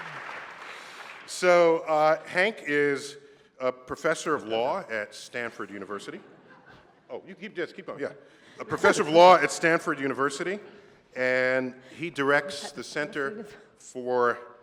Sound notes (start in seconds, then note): 6.2 laughter